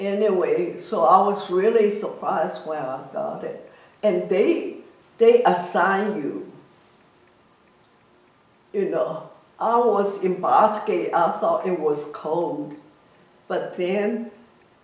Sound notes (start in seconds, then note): none